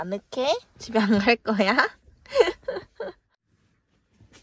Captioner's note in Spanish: risas